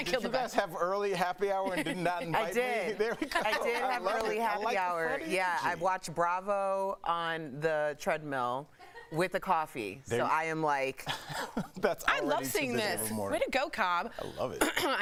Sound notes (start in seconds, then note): 7.3 laughter